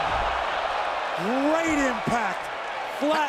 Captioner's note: applause